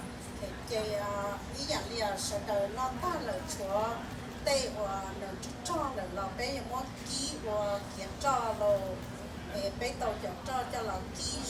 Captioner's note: speaking in foreign language